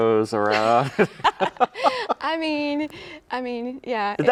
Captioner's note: laughs